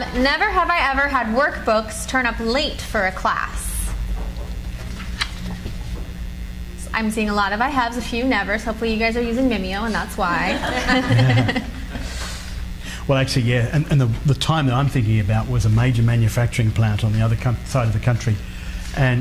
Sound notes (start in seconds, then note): 4.8 cards flutter; 10.2 audience laughs